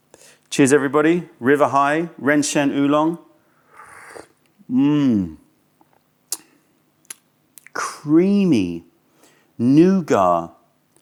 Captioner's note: sips tea